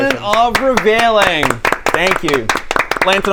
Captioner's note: impressed applause